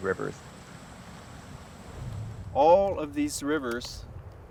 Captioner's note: sound of rushing water